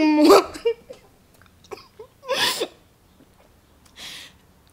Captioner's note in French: pleurs